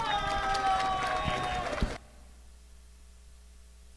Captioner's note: audience applauding